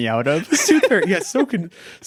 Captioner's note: both laughing